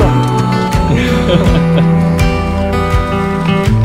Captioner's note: laughs